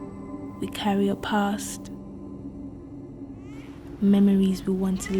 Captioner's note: baby crying